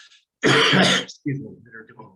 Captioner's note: coughing